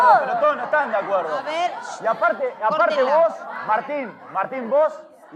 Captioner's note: shouting, Discussion